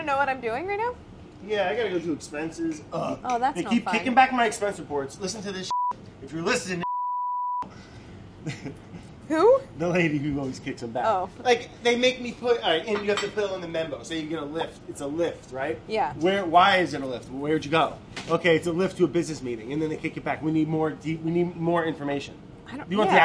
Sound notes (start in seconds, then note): 5.6 beeping; 8.4 beeping